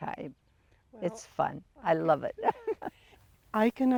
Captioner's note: giggles